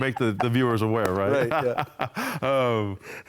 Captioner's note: laughter